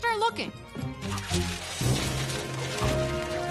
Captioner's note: flutter of papers